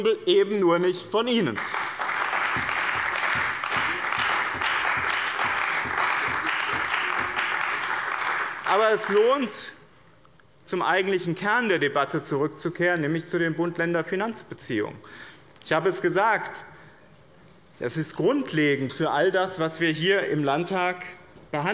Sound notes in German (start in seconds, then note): 1.4 Beifall bei dem BÜNDNIS 90/DIE GRÜNEN und der CDU